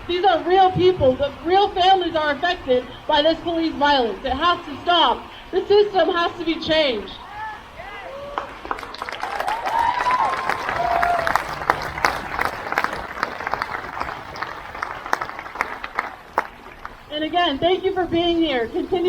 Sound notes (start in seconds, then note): 7.1 crowd cheers